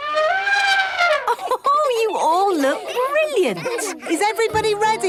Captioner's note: trumpeting; Mummy Pig laughing